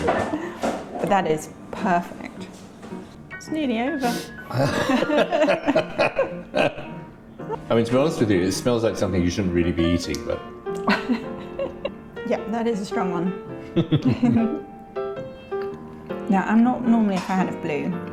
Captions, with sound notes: But that is perfect. It's nearly over. (laughing) I mean, to be honest with you, this smells like something you shouldn't really be eating, but. (laughing) Yeah, that is a strong one. (laughing) Now, I'm not normally a fan of blue,